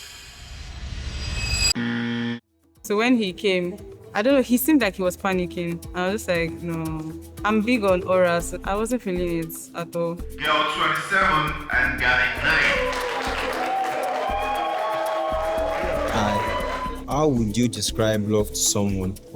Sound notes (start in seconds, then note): 12.3 applause